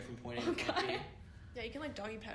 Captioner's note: giggle